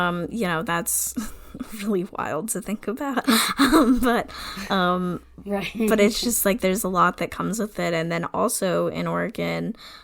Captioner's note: laughs